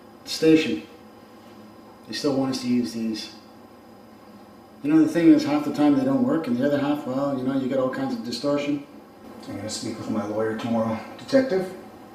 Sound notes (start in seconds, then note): none